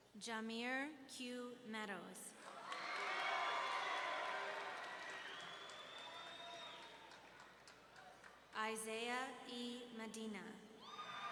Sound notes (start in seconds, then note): 2.5 audience cheering